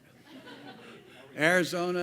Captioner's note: laugh